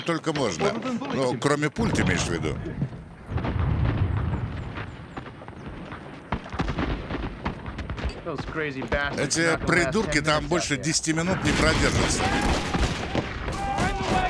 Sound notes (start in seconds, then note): 3.3 loud explosions; 5.1 guns firing; 12.0 men screaming